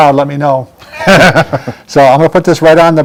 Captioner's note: laugh